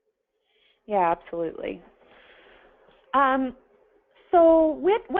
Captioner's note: pause